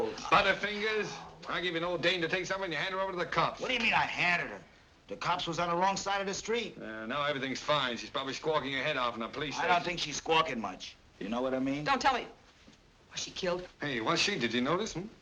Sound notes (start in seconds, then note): none